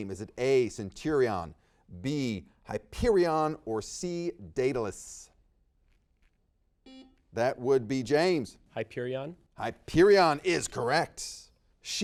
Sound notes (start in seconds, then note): 6.8 buzzer beeps